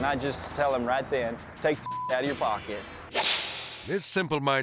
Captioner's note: beep; air swoosh